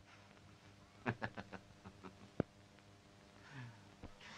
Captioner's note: laughs